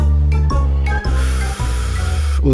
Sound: exhaling

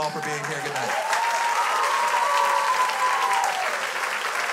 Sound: crowd cheers; crowd applauds

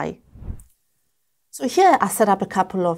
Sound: air whooshes

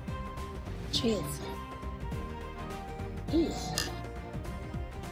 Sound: glasses clink

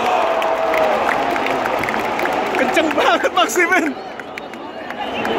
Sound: clap

